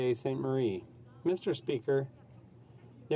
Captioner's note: speaking French